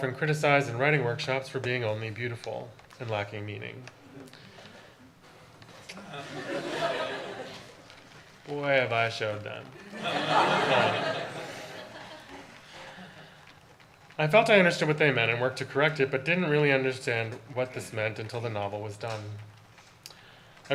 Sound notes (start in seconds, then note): 5.9 audience laughter; 9.8 audience laughter